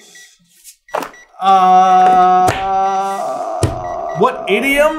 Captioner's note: gentle beeping